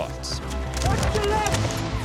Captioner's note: men shouting